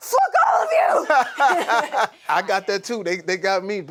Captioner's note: laughs